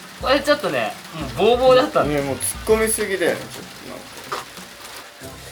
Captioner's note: laughs